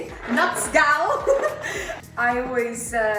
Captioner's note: laughs